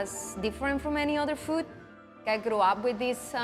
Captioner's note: none